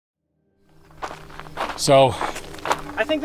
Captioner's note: footsteps crunching